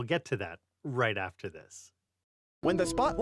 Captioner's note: voiceover